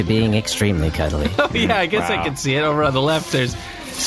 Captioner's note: laughing